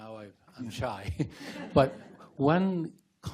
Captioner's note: group laughs